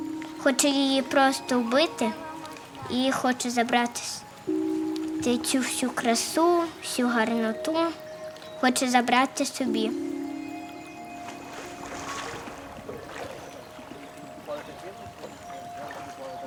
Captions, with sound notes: It just wants to kill it and take all the beauty, all the goodness for itself. [The sound of pushing water]